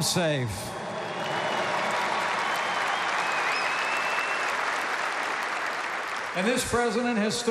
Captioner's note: applause